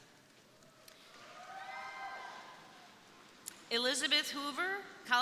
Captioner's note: crowd cheering